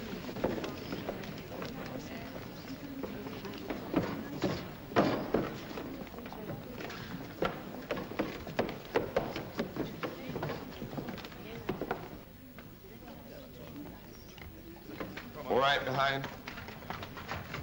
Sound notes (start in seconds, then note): 0.0 soft chatter; 3.8 feet thump up steps; 7.0 feet scamper up steps; 10.1 soft chatter; 17.4 hooves trotting away